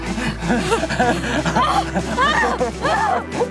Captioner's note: laughs